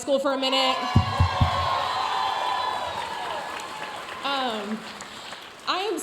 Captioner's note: audience cheering and applauding